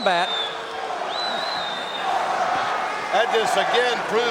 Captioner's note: audience cheering